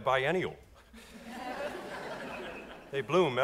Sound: audience laughs

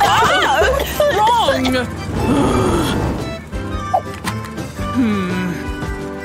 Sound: coughs

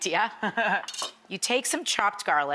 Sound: laughs

